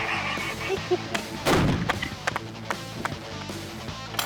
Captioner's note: cannon fires; chuckling; clapping